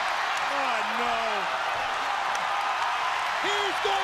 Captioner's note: crowd cheering